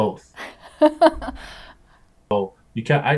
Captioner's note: laughs